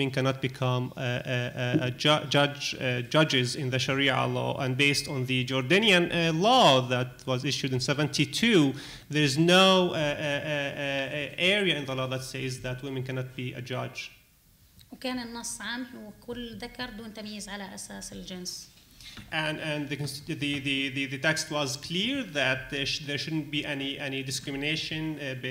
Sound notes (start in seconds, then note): 14.7 speaking arabic